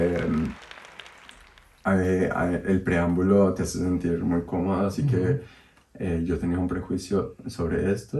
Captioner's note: applause